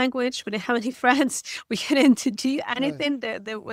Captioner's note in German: lacht